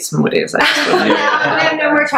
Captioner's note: laughs